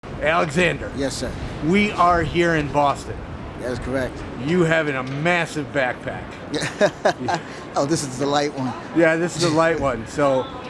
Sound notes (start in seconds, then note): 6.5 laughs